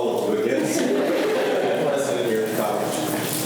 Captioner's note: students laugh